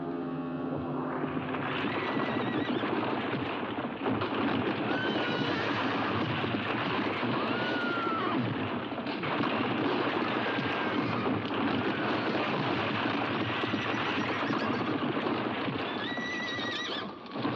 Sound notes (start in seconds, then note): 1.4 rocks tumbling; 1.6 horse neighs; 17.3 horse neighs